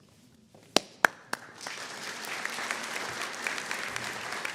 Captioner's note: applause